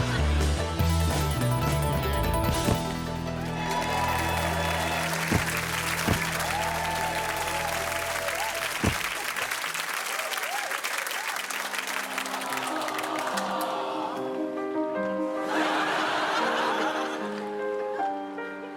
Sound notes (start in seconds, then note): 0.1 laughter; 5.3 cheering and applause; 14.2 audience "aww"ing; 16.5 sad music playing